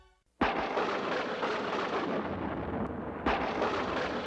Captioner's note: thunder rumbling